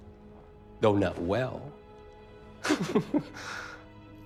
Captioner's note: chuckles